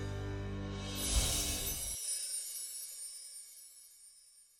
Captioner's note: bells jingle